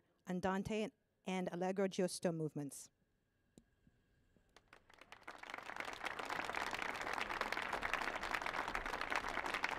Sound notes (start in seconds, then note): 4.6 audience applauding